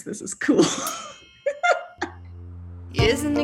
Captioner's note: laughing